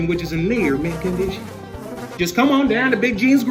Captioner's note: flies buzzing